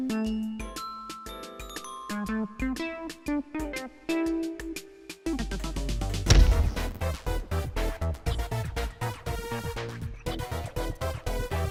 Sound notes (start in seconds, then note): none